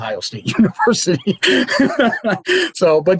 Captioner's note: laughs